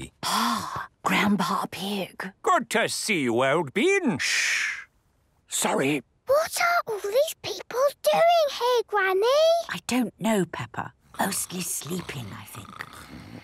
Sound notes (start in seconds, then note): 4.9 whispering; 6.3 quietly